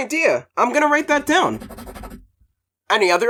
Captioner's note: scribbling